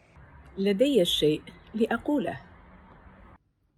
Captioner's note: Arabic